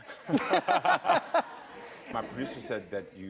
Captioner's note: laughs